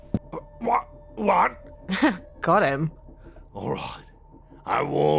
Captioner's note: chuckles